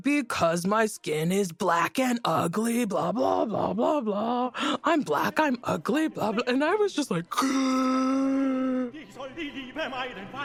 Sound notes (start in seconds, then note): 7.3 gasps